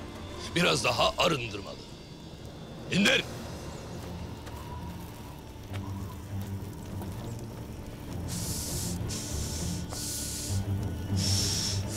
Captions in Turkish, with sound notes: Biraz daha arındırmalı. İndir! (Gerilim müziği) (Mergen nefes alıp veriyor)